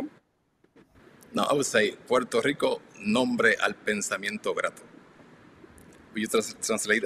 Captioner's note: speaks in foreign language